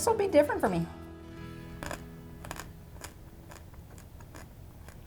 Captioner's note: anchovy crunches